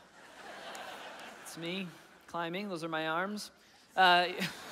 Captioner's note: laughing